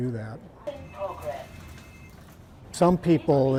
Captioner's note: phone ringing